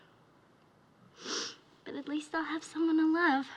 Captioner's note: sniffles